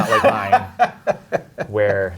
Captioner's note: guy laughing